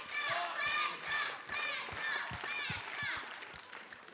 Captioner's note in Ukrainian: оплески